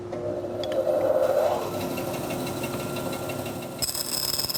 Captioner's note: band saw whirs